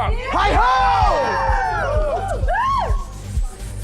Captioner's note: crowd cheer